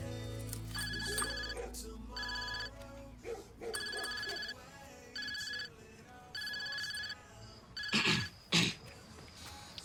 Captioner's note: phone rings